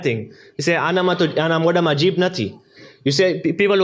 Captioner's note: gujarati